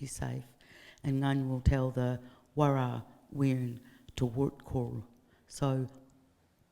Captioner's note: speaking in foreign language